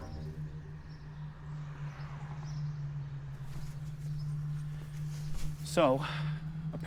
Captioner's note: birds chirping; distant traffic humming